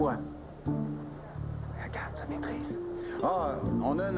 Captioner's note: Chuchotant